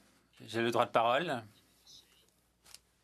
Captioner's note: speaking French